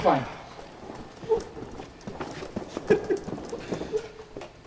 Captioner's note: laughs quietly